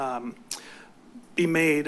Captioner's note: clicks tongue